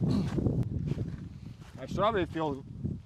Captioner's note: clearing throat grunt